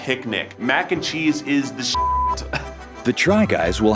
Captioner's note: beep